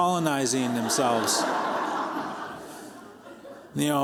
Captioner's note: laughter